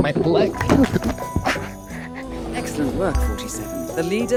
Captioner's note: thuds onto the floor